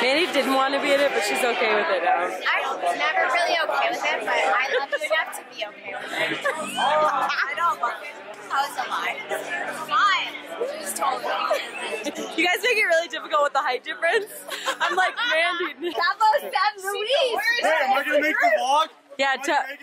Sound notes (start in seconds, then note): 6.2 laughs; 11.4 laughs; 14.4 both laugh